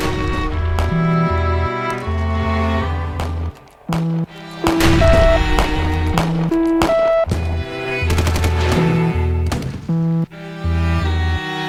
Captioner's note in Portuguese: Tiros Ao Fundo